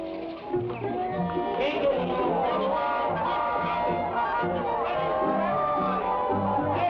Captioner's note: people chatter; cheerful music